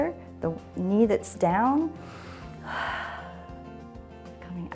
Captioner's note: inhales and exhales